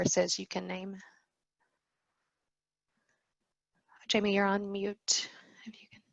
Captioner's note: no audio